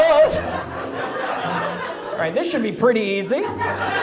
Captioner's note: audience laughs